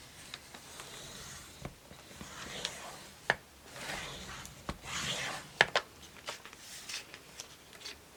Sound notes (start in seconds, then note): 0.8 cutter slicing